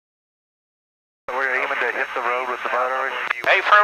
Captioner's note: radio traffic